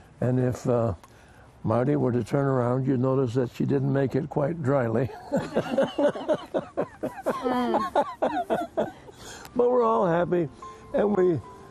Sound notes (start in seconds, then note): 5.0 laughter; 10.2 theme music